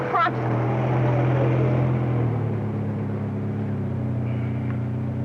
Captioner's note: car engine sound